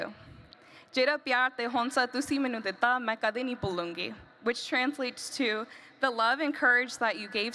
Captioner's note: non-english speech